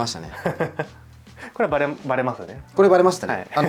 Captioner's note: laughs